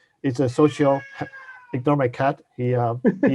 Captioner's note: cat meows